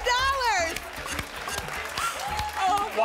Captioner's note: applause and cheering